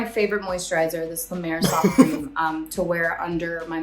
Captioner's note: guffawing